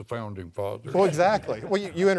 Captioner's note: laughing